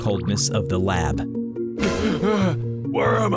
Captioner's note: deep gasp